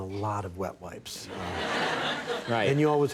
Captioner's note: audience laughing